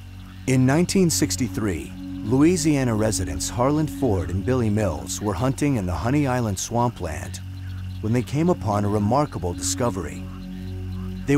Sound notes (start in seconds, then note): none